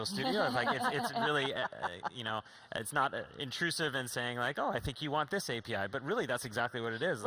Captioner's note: laughter